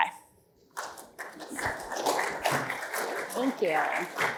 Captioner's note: applause